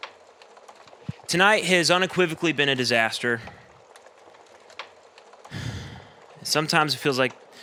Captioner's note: sighs again